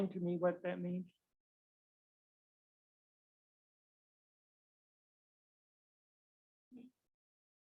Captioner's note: no audio detected